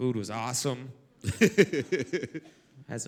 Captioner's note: laugh